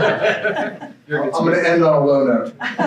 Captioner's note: crowd laughing